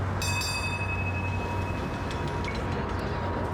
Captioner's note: <i> bell ringing</i>